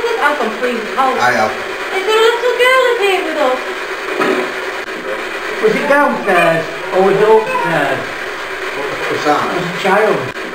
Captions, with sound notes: I've gone freezing cold I have I there a little girl in here with us? Was it downstairs?- (Child's voice) (Child's voice x2) or was it upstairs? What was that? It was a child